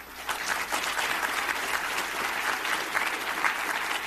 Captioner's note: audience applauding